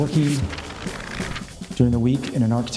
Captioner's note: paper flipping